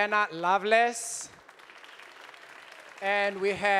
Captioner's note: audience applauding